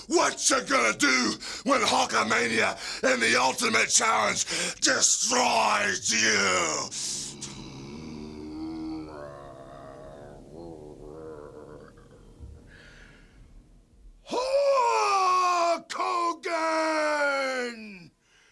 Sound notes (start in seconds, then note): 4.4 inhales; 6.6 Ultimate Warrior growling